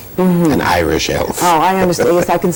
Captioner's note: laughs